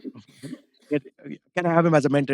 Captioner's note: laughs